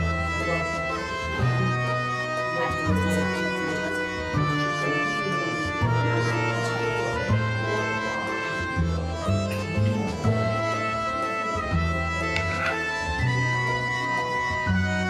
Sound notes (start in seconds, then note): 0.1 mysterious music; 5.4 indistinct chatter